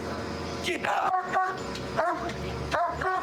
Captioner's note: barking